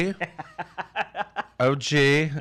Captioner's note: laughs